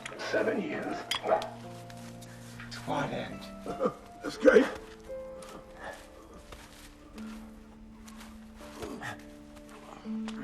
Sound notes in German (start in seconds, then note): 3.6 Kichert